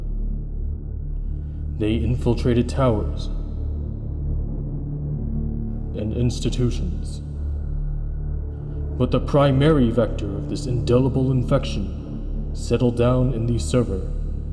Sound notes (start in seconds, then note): none